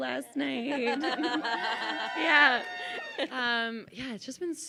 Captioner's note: chuckles; laughing; crowd cheers